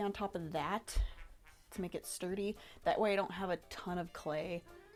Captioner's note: none